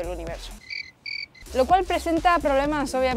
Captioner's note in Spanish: Canto de grillo